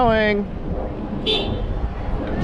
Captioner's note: honk